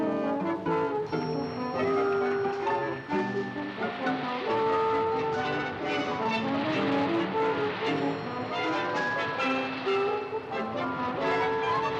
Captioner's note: waves crashing; upbeat music